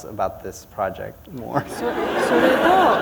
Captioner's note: laughter